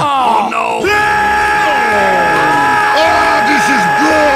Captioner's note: Demoman Screams Loudly